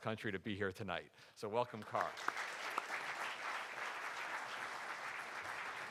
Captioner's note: audience applauding